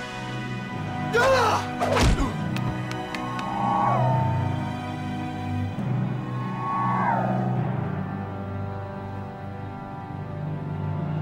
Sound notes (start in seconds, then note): 1.1 shouts